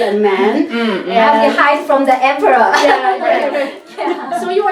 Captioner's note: laughs